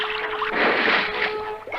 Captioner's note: splash!